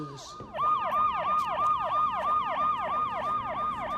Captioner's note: siren wailing